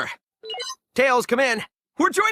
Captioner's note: beep beep